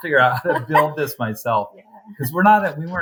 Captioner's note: laughs